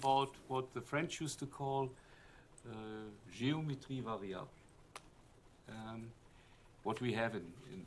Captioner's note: french